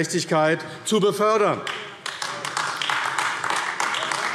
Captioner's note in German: Beifall AfD